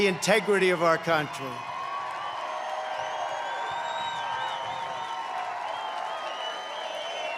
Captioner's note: applause